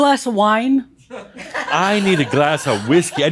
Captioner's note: some chuckles